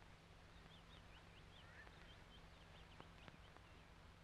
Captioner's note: birds chirping